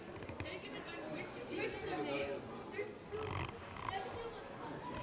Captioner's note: audience chattering